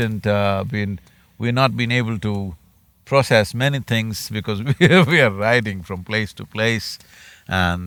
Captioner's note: laughs